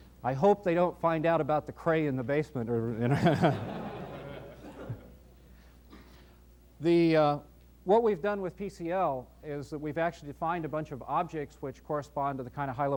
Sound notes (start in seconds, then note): 3.1 laughs